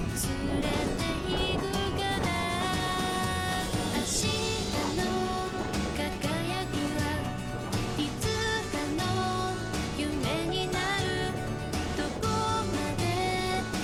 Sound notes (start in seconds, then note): 3.4 grooooowl